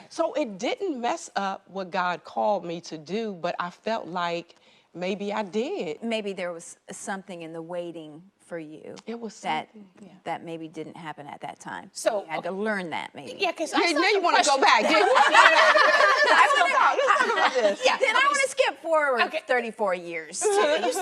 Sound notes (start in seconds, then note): 15.4 women chittering and laughing; 20.4 women laughing